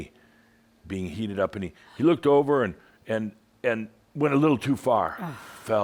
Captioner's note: gasps